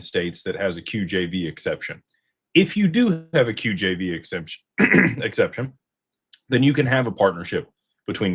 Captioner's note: clears throat